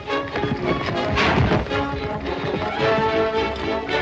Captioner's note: bodies thud